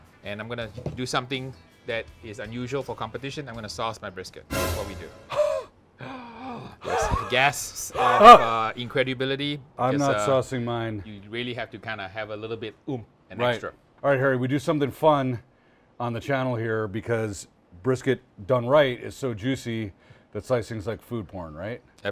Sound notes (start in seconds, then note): 4.5 dramatic sting; 5.3 gasps